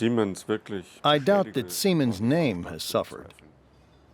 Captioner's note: through translator